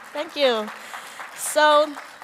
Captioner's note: applause